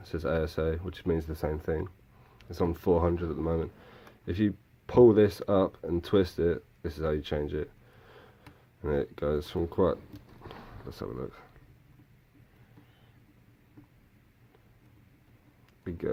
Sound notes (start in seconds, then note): 10.4 huff